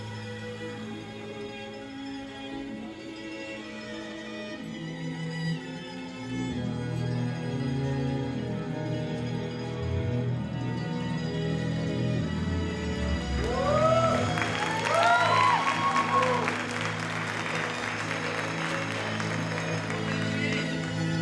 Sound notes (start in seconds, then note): 12.9 audience applauding; 12.9 audience cheering; 17.9 soft music continues